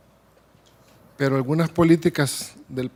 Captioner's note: speaking Spanish